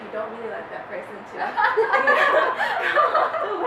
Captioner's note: laughing